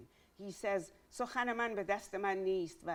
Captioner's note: speaking in Farsi